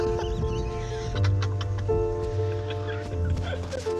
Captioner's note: chuckles